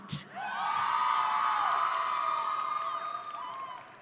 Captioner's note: audience cheering